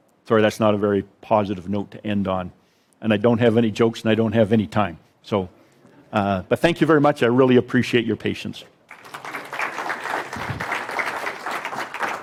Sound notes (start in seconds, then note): 5.8 audience laughs; 8.8 audience applauds